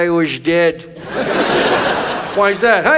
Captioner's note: audience laughs